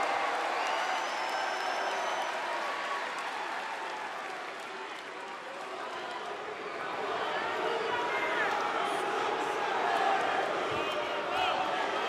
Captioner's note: crowd cheering; crowd chatter